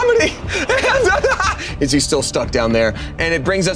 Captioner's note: hysterical laughing